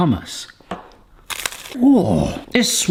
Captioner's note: cracker crunches